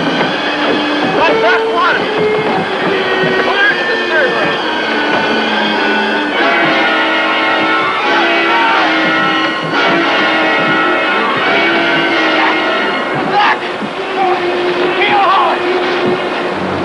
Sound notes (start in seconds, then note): 7.3 shouting; 13.2 shouting